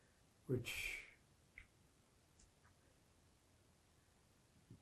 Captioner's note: pauses 6 seconds